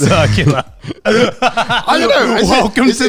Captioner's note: laughing